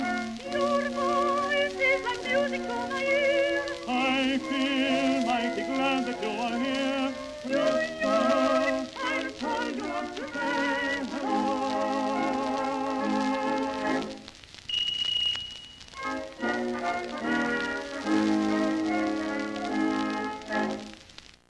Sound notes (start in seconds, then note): 14.7 phone rings as song ends